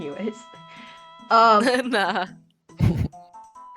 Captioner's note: laughs